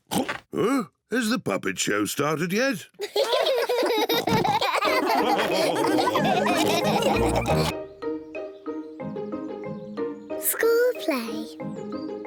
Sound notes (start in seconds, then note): 3.0 all giggle